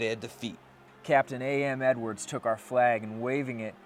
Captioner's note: voiceover